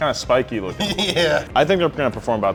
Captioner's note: laughing